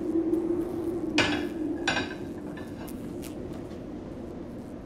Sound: dish clattering

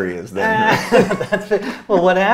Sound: both laughing

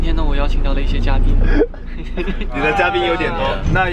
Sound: laughing

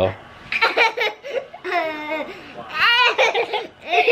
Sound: laughing

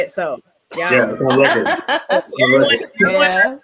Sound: laughs

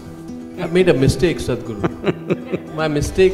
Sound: Sadhguru laughs

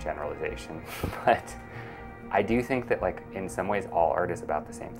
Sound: chuckles

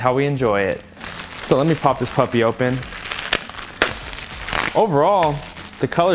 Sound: wrap crackles

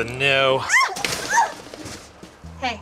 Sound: woman yelps

